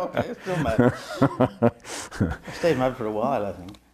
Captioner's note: laughs